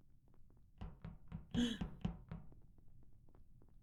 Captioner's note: gasps